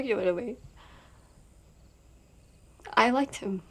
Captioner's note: crickets chirping